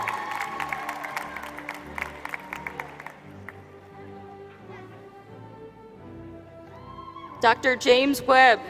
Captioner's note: applause